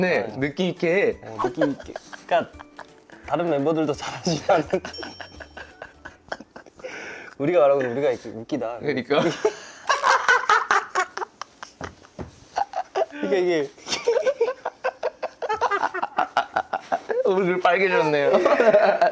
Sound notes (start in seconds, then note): 13.8 bursts into laughter for the second time